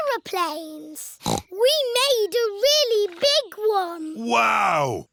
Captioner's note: snorts